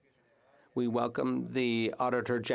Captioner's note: speaking French